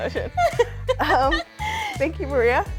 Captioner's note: laughing